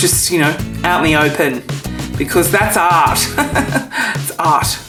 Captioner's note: laughs